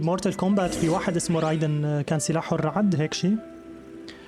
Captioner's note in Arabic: صفير هوائي; موسيقى لطيفة